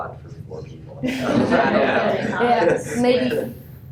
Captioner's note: laughter